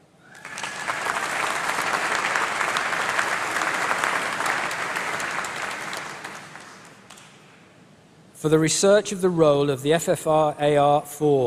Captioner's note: applause